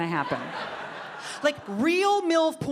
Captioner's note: audience laughing